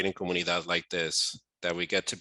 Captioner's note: foreign language